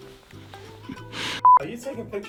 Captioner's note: laughs; beep